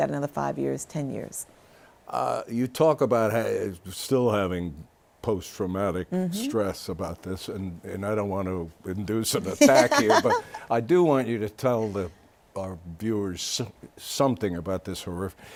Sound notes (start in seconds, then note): 9.5 laughs